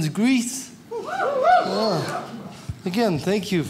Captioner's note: audience applauds